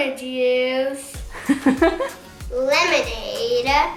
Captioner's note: laughs